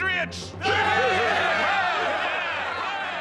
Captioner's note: louder cheering